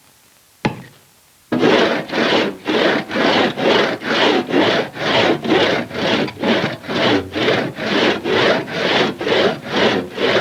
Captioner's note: sawing